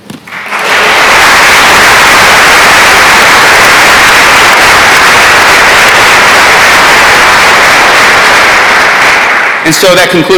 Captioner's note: applause